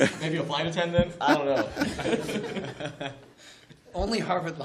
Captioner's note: laughter